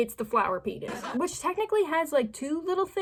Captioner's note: laugh track